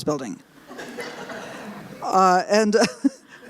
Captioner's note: laughter